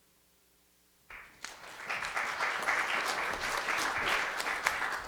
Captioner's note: applause